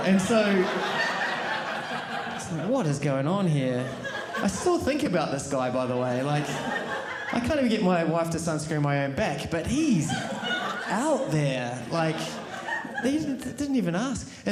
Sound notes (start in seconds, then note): 3.8 audience laughing